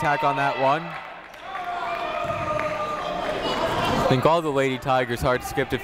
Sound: people shouting in the crowd

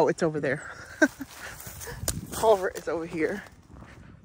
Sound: laughing

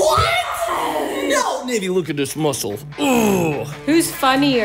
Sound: grunts

